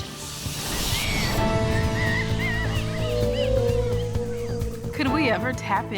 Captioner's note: chimps scream, wolves howl